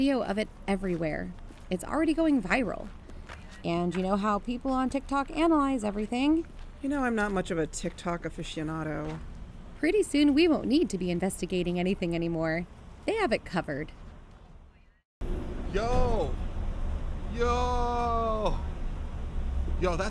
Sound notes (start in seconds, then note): 15.2 ambience cuts out